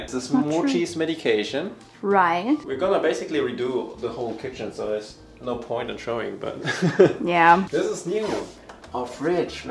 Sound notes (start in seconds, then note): 6.6 laughs